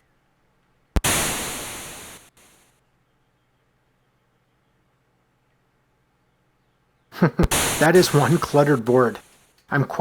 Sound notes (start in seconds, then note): 0.9 thunder clap; 7.1 chuckles